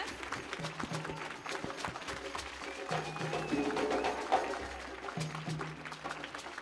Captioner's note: audience cheering; drum music